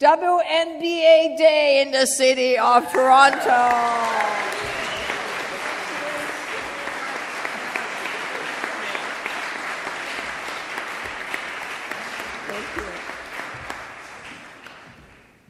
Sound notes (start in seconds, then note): 2.8 applause